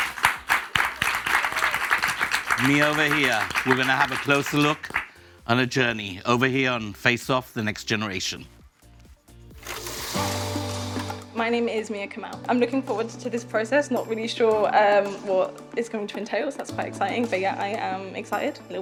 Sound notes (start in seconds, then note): 0.0 audience applauds; 10.1 projector whirs